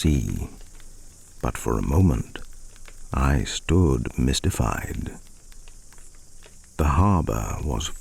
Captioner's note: fire crackling and night insect buzzing